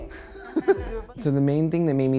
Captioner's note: both laughing